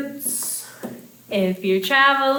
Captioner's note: finger tapping